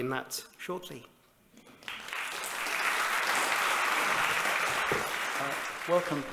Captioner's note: applause